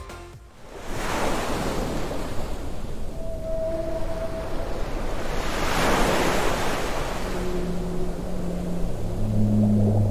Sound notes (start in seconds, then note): 0.6 waves lap; 2.7 whales sing